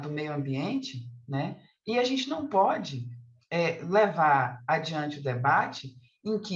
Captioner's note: continues speaking in Portuguese